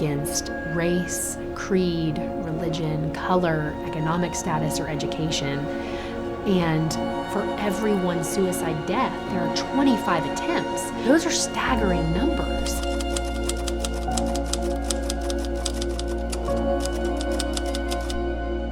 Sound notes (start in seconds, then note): 12.9 typing